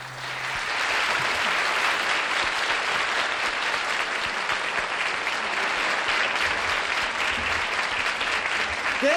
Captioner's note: applause